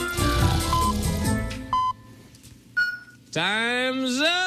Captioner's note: electronic beeping